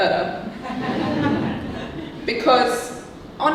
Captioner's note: audience laughing